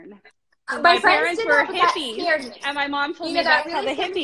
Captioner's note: both mumbling